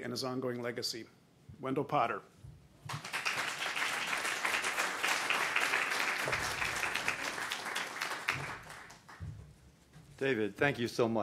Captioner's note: applause